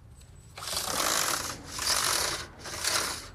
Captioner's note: rattling